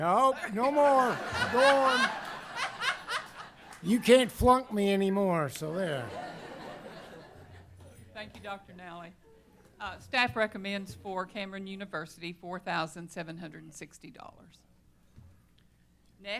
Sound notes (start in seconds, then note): 0.3 laughter